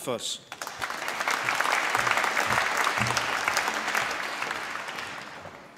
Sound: applause

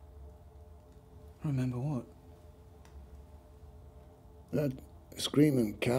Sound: none

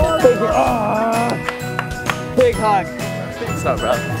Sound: groaning

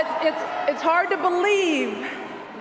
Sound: cheers, applause

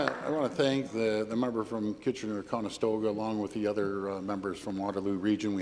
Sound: applause

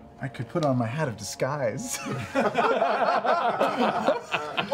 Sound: laughter

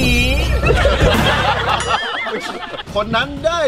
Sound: laughs

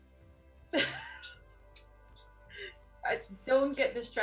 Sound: laugh

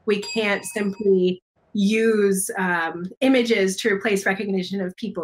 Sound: bell dings

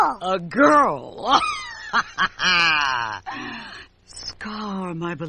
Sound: Zira's laugh

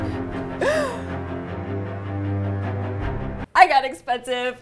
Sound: suspenseful orchestral music; gasps

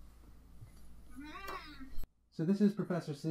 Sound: meowing

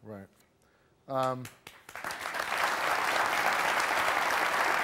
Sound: audience applauding

